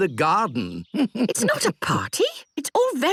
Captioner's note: chuckles